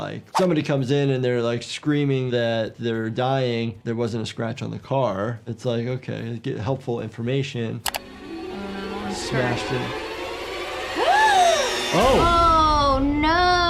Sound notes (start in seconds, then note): 7.8 chilling music; 11.0 gasps